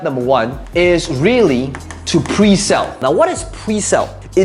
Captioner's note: marker tapping